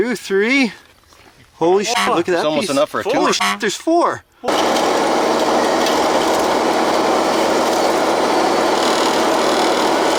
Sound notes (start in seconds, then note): 3.2 horn honks; 4.4 machines whirring